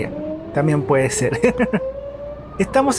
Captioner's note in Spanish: risas